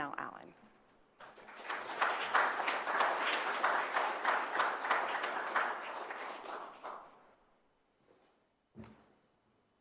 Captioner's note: applause